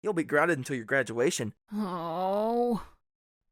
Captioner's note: groans